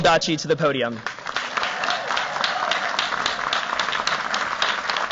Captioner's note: applause